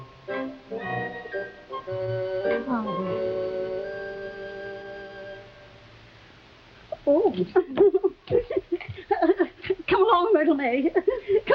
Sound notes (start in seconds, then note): 0.0 intriguing music; 4.4 Veta whispering